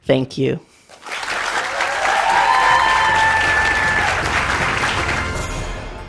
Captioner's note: applause